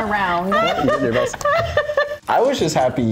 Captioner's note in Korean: 웃음